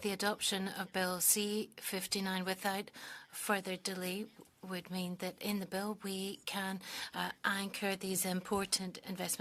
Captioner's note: speaking French